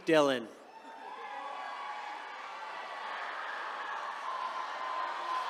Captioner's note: attendees cheering